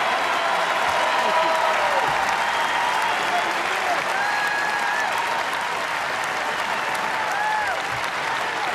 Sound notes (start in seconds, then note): 2.8 applause, cheers